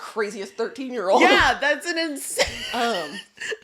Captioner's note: wheezing